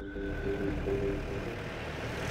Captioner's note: Jeep arriving